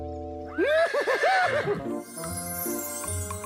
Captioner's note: neighs and laughs